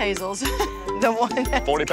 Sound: laughs

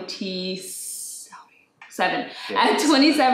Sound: whispers

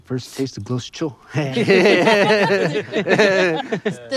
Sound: laughter

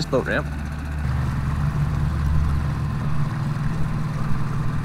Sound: engine revving

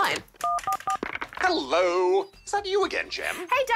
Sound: on phone

